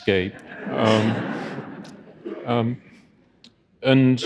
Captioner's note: audience laughing